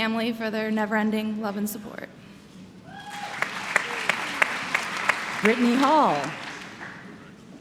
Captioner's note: applause